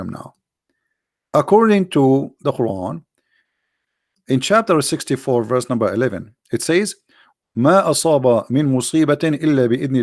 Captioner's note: arabic